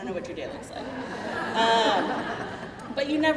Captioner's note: crowd laughing